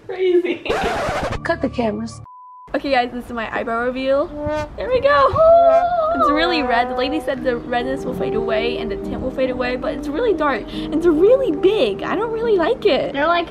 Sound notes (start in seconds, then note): 0.6 laughing; 0.6 record scratching; 2.2 beep; 6.2 dramatic orchestral chords